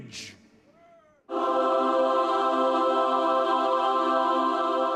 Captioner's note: heavenly sound